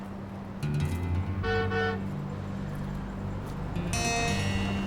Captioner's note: car honking